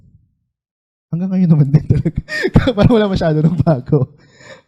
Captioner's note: laughing